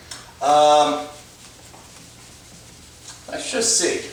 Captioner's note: eraser against whiteboard